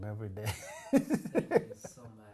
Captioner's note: laughs